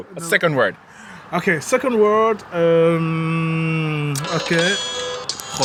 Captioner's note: phone continues ringing; phone rings